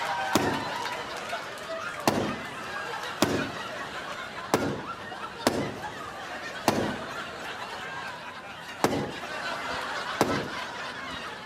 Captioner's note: laughter